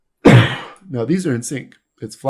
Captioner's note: coughs